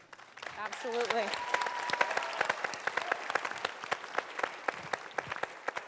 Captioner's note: cheering and applause